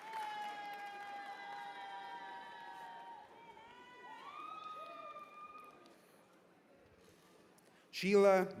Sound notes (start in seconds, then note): 2.9 cheers and applause